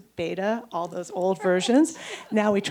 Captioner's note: chuckles